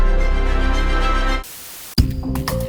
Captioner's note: static sound